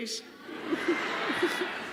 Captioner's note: laughter